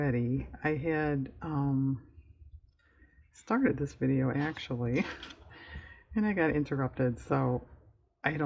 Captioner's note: laughs